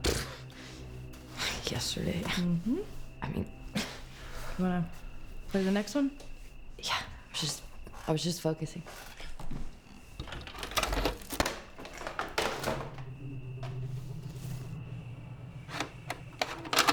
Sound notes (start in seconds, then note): 0.3 scoffs; 10.2 tape rattles; 12.6 sinister music